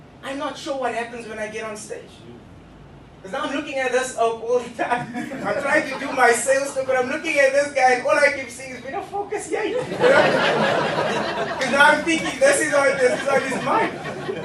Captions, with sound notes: I am not sure what happens when I get on stage... because I am now looking at this oke all the time I'm trying to do my sales talk but I'm looking at this guy and all I can see is... hoe die *** is jy? (Laughter) You know Because now I'm thinking this is what's on his mind